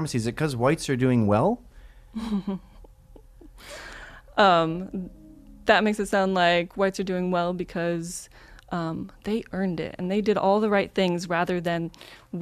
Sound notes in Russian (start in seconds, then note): 2.2 смех